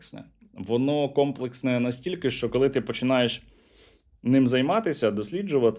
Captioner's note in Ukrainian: сопіння